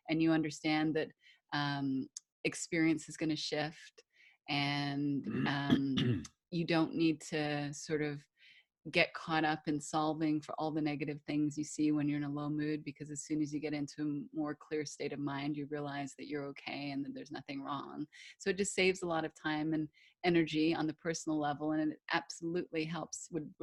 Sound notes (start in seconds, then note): 5.3 clears Throat